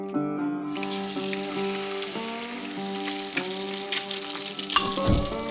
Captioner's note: tapping; sizzling